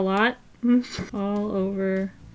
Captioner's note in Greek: Γέλια